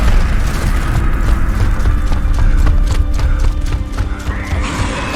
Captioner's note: footsteps thudding